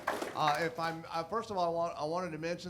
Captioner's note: audience applauding